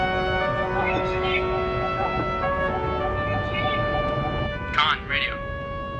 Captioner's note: speaking in foreign language